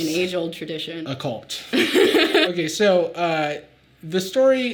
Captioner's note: Sadie laughing